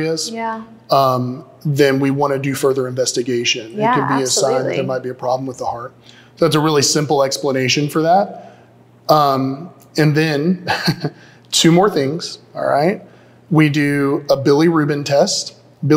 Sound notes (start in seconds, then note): 10.6 chuckles